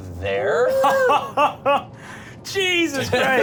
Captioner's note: laughing